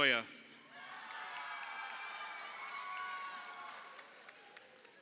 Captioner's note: crowd cheering